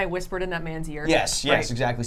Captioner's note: none